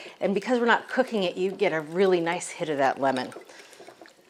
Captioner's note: none